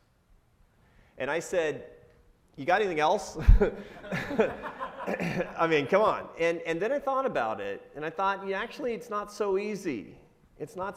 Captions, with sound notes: And I said, "You got anything else?" (laughs) I mean, come on. And then I thought about it, and I thought, "Yeah, actually it's not so easy,